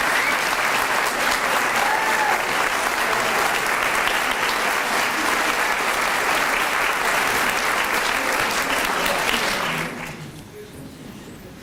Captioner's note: applause